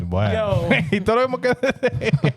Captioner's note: speaking In Foreign Language